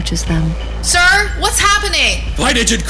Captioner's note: shouting; also shouting